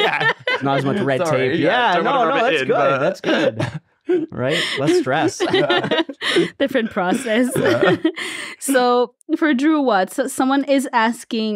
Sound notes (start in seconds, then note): 4.1 everyone laughs